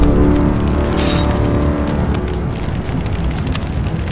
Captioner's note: machine clinks